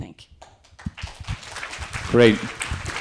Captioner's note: audience applauding